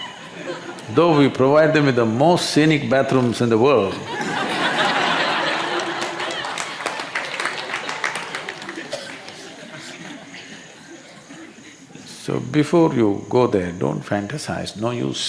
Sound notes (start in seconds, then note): 4.0 laughter